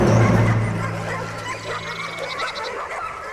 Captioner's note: dogs barking